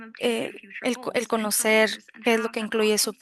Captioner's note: speaking spanish